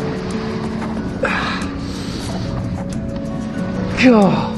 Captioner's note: grunting